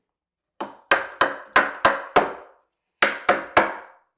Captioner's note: hammer banging